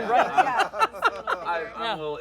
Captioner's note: laughter